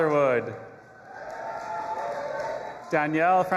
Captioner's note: audience applauding and cheering